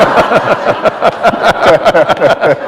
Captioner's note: laughter